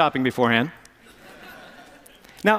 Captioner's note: laughter